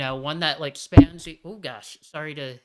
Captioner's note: thump